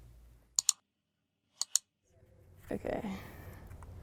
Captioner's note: clicking sound